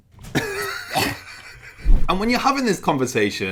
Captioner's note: laughing